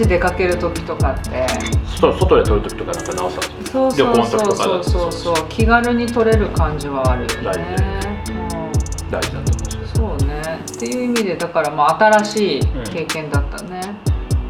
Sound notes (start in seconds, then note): 7.5 laughs